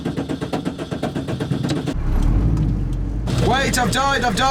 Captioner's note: engine stutters